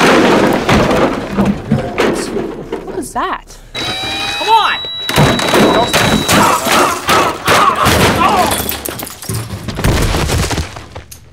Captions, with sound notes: (crashing) - What was that? - Come on! (breaking glass) Ah, ah! Ah! Oh!